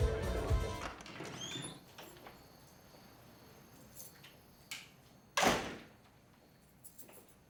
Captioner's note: door creaks open and slams; crickets chirp